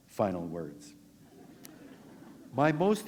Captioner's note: laughter